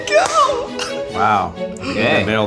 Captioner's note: beeps